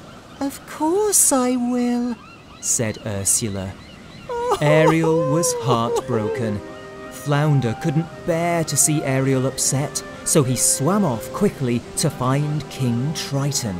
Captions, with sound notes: "Of course I will!" said Ursula. Ariel was heartbroken. (Sobbing) Flounder couldn't bear to see Ariel upset, so he swam off quickly to find King Triton.